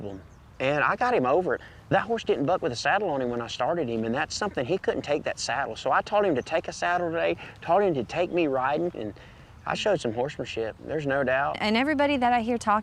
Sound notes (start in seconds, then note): none